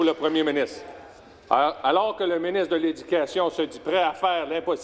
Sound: speaking French

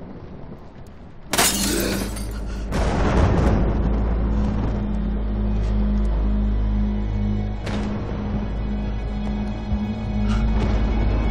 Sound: glass shattering

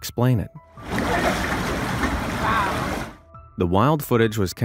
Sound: mud bubbling

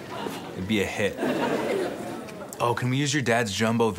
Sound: audience laughs

